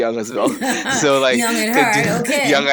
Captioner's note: all laughing